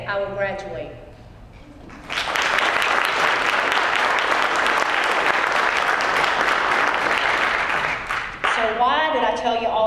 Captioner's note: applause